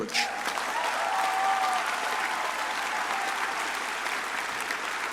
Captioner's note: crowd cheering and applauding